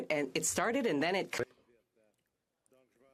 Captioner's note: speaking French